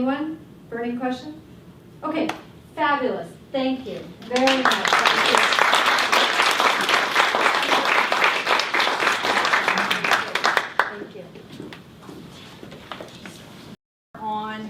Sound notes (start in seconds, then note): 8.2 applause